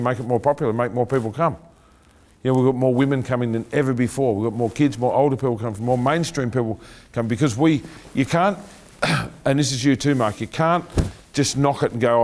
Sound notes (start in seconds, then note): 9.0 clearing throat